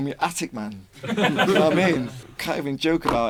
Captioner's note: group laughs